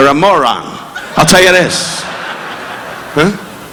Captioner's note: audience laughing